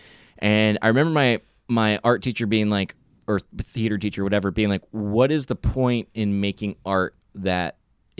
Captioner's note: none